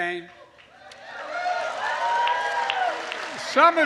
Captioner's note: applause